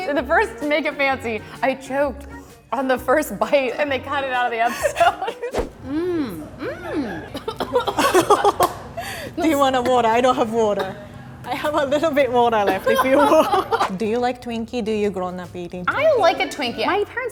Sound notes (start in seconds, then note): 8.0 coughs; 13.0 coughs loudly